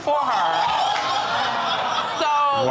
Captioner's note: exclaiming, laughter